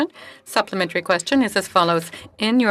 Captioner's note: speaking French